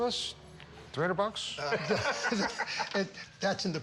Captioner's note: laughter